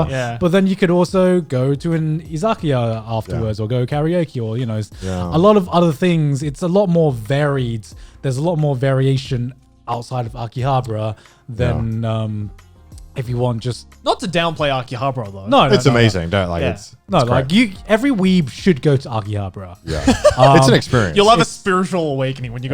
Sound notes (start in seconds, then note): 19.8 laughing